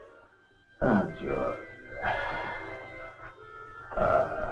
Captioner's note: Joseph speaking in Russian